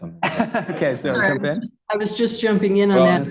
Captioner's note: laughs